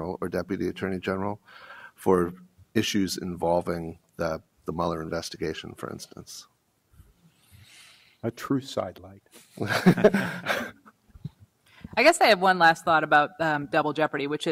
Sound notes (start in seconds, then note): 9.6 panelists laugh